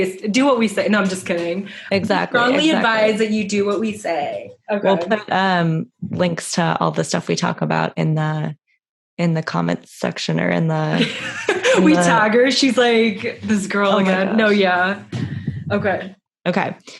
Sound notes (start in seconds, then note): 11.1 laughs